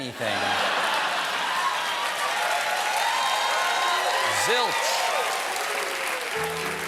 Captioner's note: cheers and applause